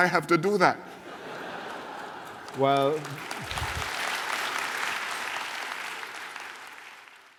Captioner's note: laughter and applause